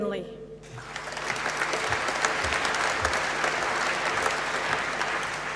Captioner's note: applause